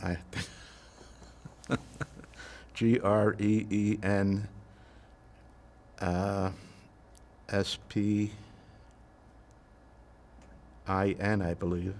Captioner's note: laughing